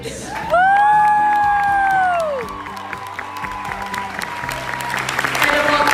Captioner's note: applause, cheers